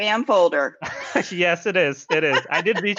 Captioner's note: laughing